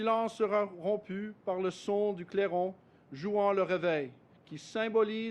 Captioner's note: speaks French